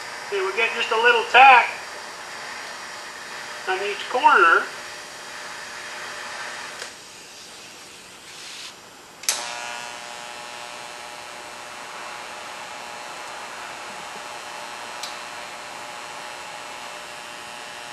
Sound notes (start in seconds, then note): 4.3 welding